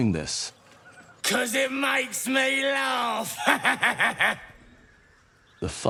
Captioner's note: laughing